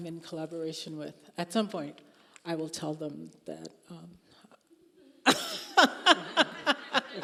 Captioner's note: laughing